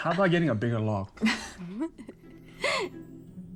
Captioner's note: laughter